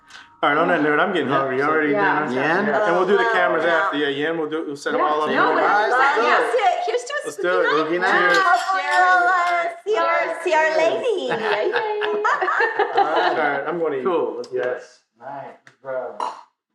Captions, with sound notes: All right on that note I'm getting hungry. Y’all ready to eat dinner? And we'll do the cameras after yeah you in? We'll do we'll set em all up in your room. Here's to a spooky night .lets do it. CHEERS! Hopefully we'll all see our lady. LADY! (Laughter) Alright I'm going to eat. Cool YES!